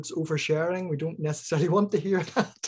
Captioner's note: chuckling